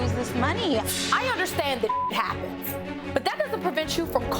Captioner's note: beep